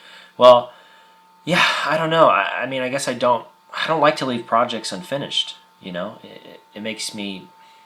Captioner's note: stammers